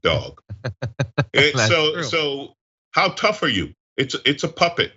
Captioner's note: laugh